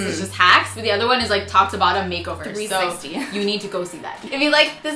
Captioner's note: laughs